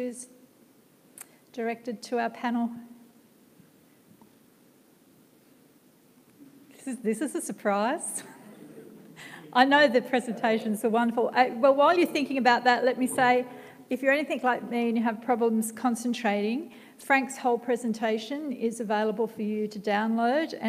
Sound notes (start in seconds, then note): 8.2 laughs